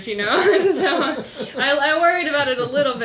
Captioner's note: laughs